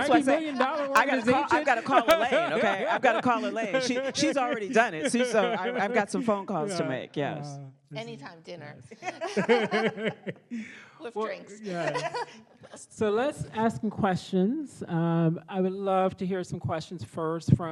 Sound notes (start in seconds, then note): 9.0 panelists laugh